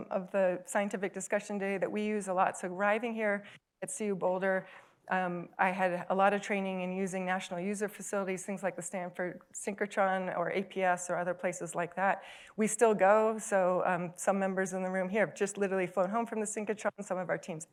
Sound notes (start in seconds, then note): none